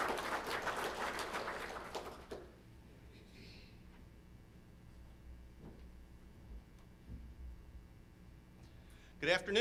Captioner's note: applause